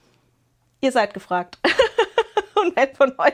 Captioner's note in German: gelächter